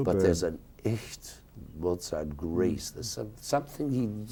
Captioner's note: speaking a foreign language